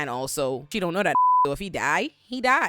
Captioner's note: beep